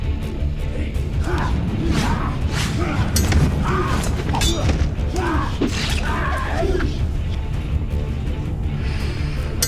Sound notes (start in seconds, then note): 1.4 whooshing; 2.7 both grunting